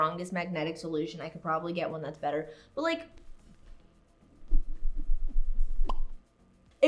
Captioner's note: pop Sound